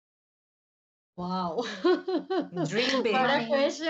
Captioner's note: laughs